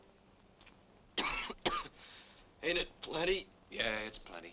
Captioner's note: coughs